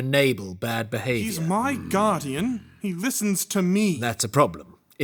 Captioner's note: Loam grunts apathetically